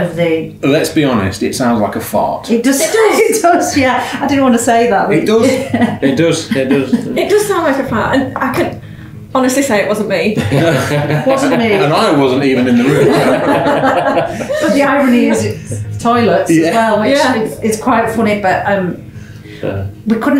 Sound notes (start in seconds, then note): 6.8 laughter; 12.6 laughter